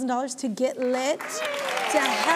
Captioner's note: audience applauding